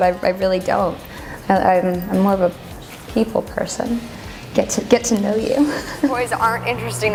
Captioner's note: laughs